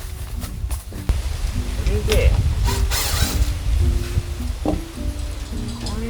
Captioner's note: laughs